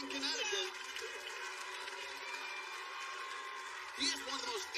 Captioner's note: cheers and applause